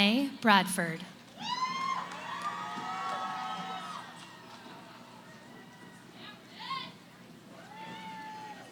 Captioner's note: cheering